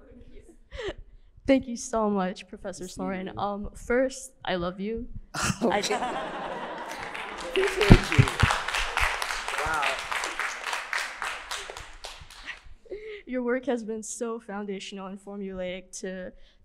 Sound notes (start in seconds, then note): 5.6 audience laughing; 8.3 audience clapping